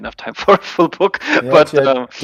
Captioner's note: laughing